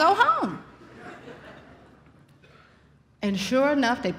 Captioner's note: audience laughs